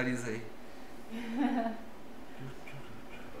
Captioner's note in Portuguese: Risos